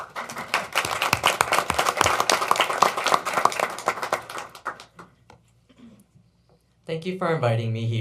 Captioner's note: applause